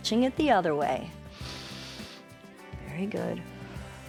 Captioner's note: inhales